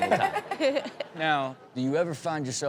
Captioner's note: everyone laughs